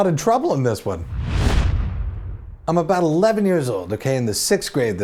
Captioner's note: swoosh